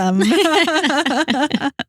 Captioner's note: laughing